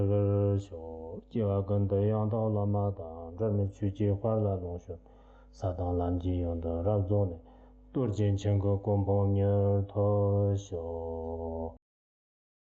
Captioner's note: recites the Tibetan dedication prayer